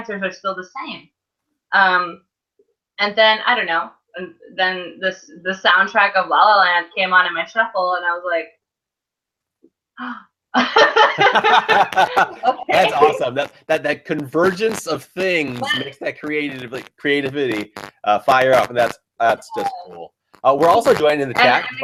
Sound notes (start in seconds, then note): 10.6 laughs